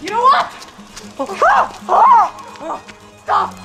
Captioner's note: exclamation